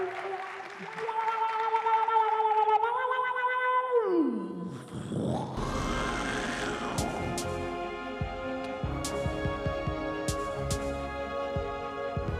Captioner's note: cheers and applause